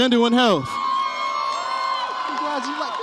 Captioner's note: audience applauds and cheers